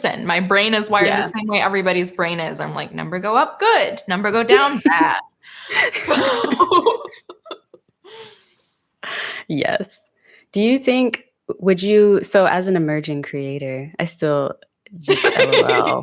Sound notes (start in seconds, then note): 5.7 both laughing; 15.1 laughing